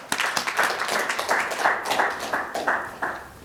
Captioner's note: claps; audience claps